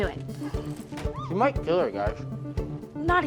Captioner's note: Nadia and the student groan